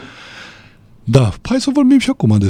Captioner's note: sigh